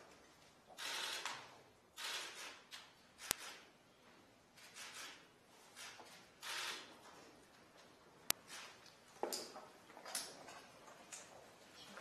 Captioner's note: camera shutters clicking